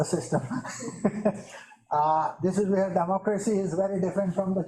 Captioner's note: chuckles